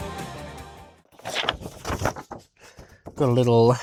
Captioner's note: page turning